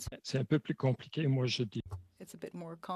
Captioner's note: speaking French